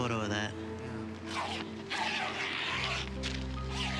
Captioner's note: zipping